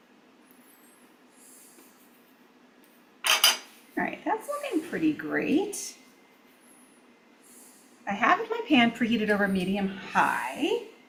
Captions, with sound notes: (tray clinks) All right, that's looking pretty great. I have my pan preheated over medium high.